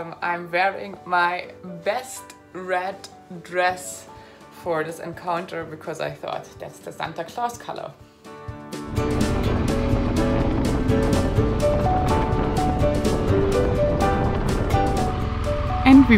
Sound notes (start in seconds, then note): 8.4 upbeat music; 10.8 motorcycle engine roaring; 13.6 upbeat music